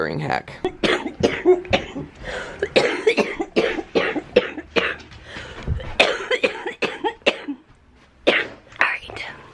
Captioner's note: coughing